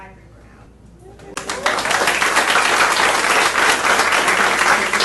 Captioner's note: audience applauding